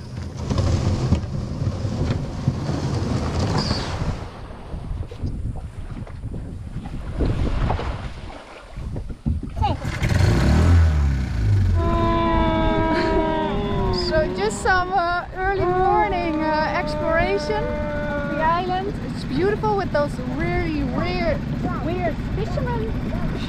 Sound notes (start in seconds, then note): 0.3 boat dragging; 4.3 water splashing; 9.6 chattering; 9.6 motor whirring; 11.4 blowing